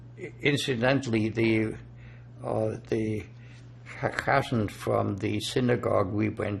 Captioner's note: yiddish